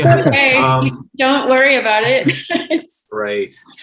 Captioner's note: laughing